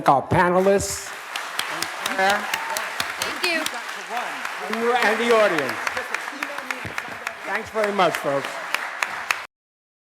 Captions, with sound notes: - I would like to thank our panelists. (applause) And the audience. (applause) Thanks very much, folks.